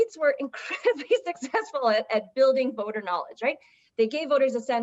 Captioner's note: laughter